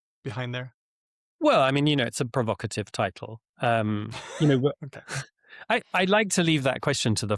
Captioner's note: chuckles